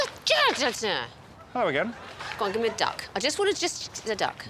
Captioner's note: shouts gibberish